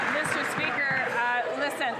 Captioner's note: some Applause